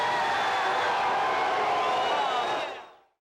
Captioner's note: crowd cheering